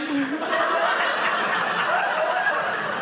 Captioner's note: audience laughing